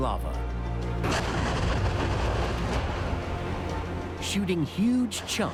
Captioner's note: explosion echoes